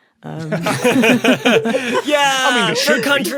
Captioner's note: group laughing